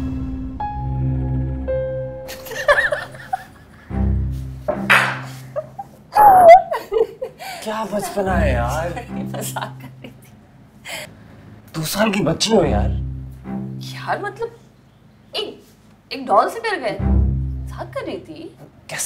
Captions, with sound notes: *laughing* *slap* *laughing* How childish are you? I was kidding. Are you a two year old little girl? I mean... One... One doll got you that terrified? I was just kidding.